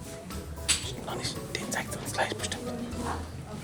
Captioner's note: whispers